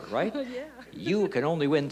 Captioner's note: giggles